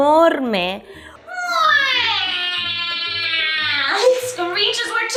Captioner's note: vulture screech